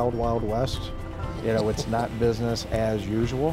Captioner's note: laughs